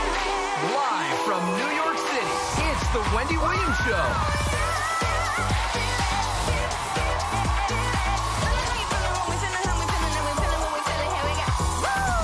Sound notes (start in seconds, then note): 0.0 upbeat music; 3.9 crowd chanting